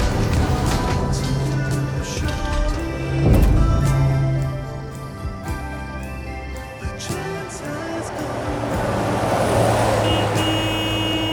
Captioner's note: car horn